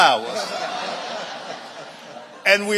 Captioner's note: audience laughing